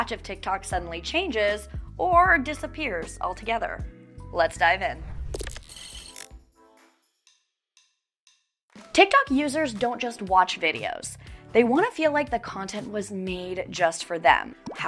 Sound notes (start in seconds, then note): 4.9 air whooshing; 5.1 text whirring